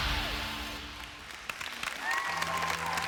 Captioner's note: applause